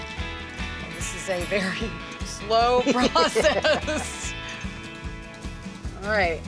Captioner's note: laughs